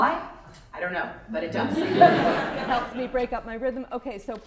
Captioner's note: paper being torn